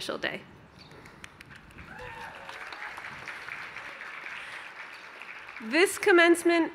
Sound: cheers

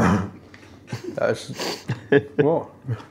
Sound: laughs

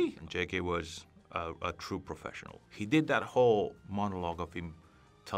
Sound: none

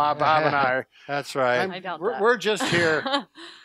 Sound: laughs

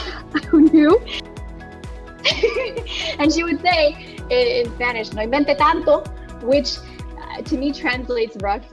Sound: laughs

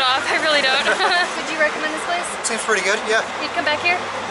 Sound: laughter

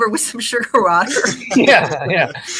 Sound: all laughing

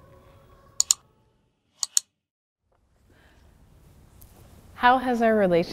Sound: keyboard keys clicking

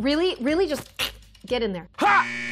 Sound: buzzer

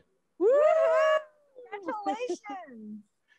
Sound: cheering

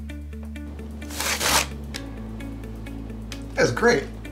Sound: paper crinkling

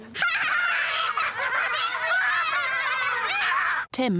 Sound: politicians laugh at Jeremy

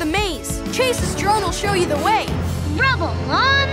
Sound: none

